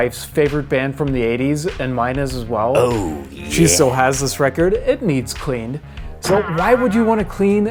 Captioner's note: silly voice Oh Yeah